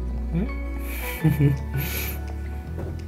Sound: laughter

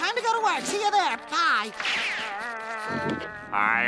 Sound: growling

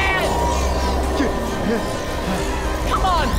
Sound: groaning

